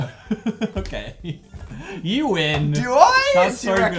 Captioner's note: laughs